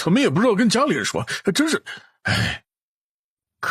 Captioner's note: sigh